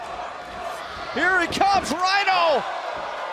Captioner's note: fans chanting